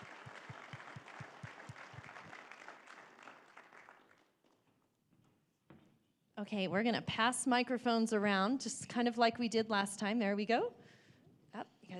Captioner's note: applause